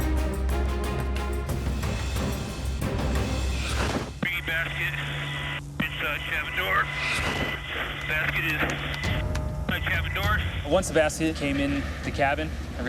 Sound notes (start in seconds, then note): 0.0 dramatic music; 3.7 static